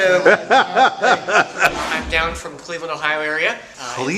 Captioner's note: laughter